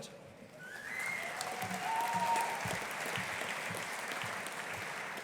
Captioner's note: audience applauding